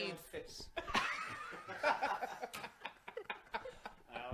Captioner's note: laughter